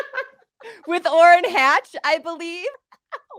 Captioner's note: laughs